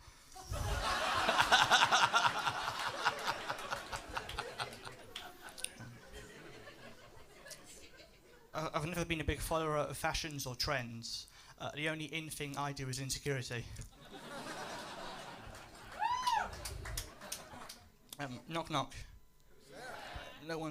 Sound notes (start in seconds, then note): 0.3 laughter; 13.9 laughter